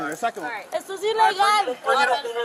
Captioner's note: speaking in Spanish